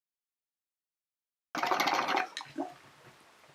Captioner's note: pipe bubbling